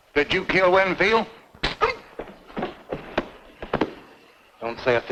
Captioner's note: Andy grunts; fist thuds